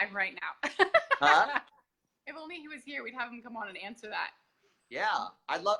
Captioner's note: laughs